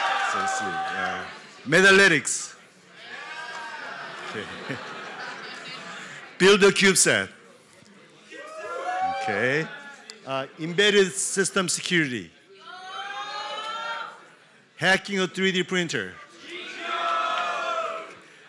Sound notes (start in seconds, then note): 3.0 scattered cheering; 4.1 chuckles; 8.3 cheering; 12.6 cheering; 16.4 cheering